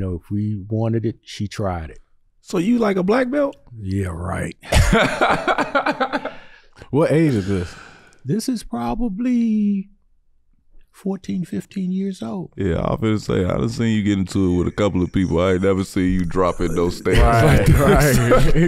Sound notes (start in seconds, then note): 4.7 laughing